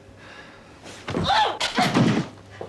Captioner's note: grunts